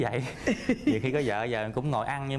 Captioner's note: laughs